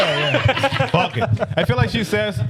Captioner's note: laughing